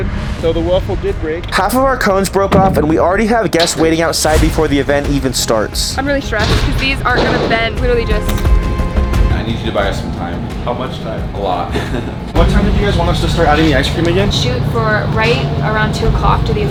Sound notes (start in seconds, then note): 11.6 laughs nervously